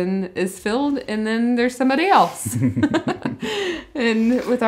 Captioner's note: laughs